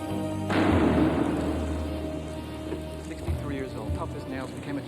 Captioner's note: door thuds